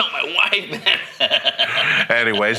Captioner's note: laughing